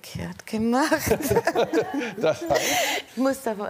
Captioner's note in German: Gelächter